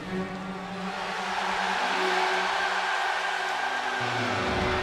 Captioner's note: crowd cheering; ominous music